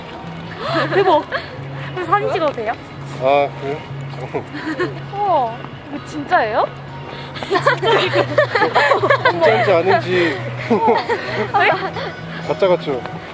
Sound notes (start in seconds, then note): 7.4 laugh